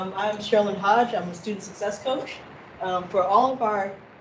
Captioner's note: none